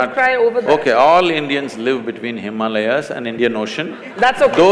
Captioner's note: laughter/Applause